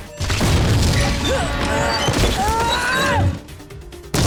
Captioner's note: grunting